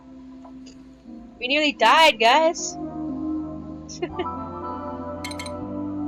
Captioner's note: laughter